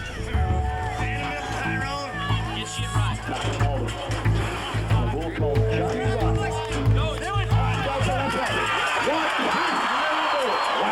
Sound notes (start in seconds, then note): 0.8 people chattering; 8.0 crowd cheering